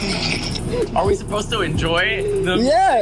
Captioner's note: cackling; laughing